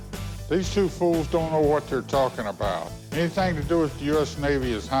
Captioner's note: none